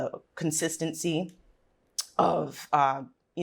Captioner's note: lips smack